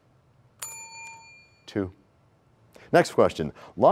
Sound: bell rings, time expires

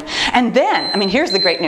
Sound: timer beeps

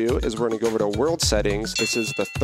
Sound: bell dinging

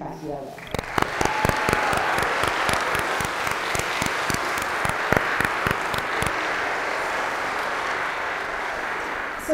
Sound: applause

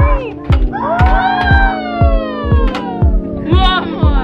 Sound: exclaiming excitedly

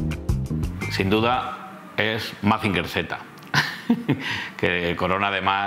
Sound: chuckles

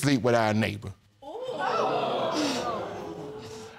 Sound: audience exclaims

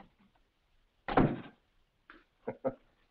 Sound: door bangs shut; Mike laughs

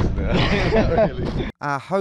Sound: both laugh

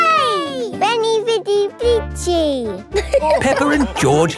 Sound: all laughing

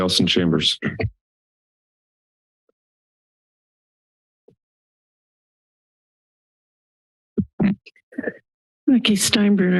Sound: silence

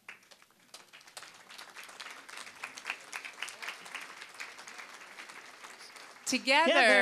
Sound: applause

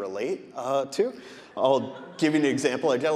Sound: audience laughing

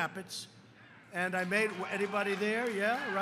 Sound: applause

